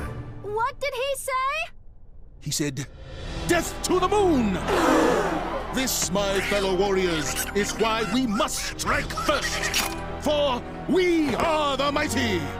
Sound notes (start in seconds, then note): 4.5 crowd gasps; 6.2 angry quacking